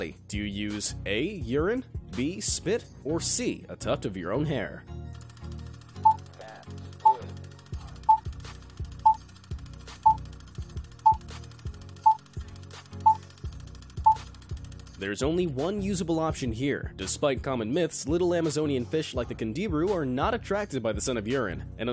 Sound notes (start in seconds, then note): 6.0 beeping